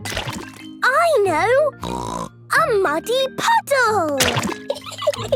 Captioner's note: laughing